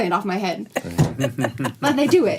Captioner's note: laughter